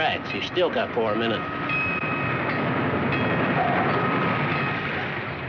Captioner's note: train bell